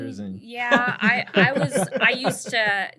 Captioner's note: laughter